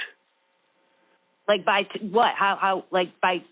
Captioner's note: over the Phone